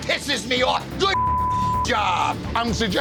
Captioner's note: beep